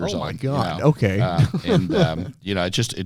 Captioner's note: laughs